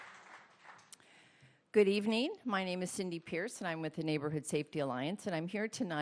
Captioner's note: applause